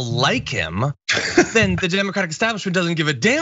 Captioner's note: laugh